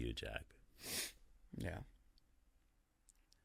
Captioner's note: sniffling